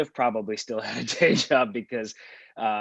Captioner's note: laughomg